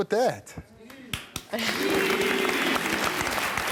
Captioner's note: applause